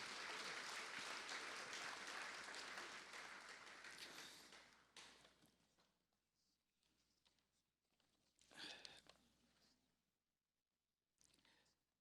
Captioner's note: applause